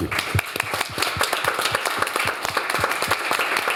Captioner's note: applause